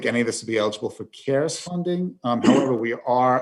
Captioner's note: clears throat